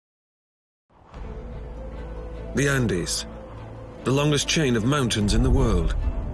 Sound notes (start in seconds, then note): 2.7 voiceover